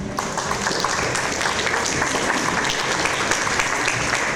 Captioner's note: audience applause